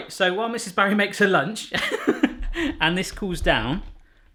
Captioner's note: laughing